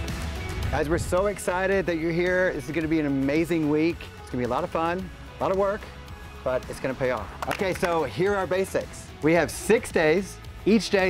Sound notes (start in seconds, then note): 7.3 group claps